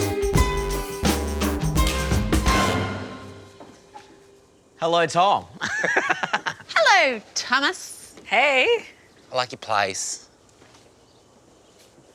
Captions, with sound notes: Hello, Tom. (LAUGHS) Hello, Thomas! Hey. I like your place.